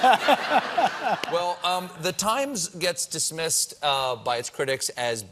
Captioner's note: laughter